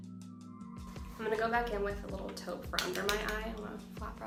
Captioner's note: tapping